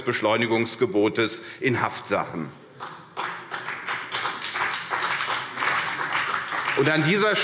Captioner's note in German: Beifall CDU und BÜNDNIS 90/DIE GRÜNEN